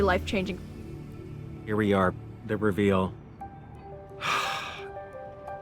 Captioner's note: sighs